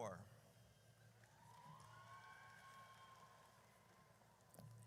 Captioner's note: audience cheers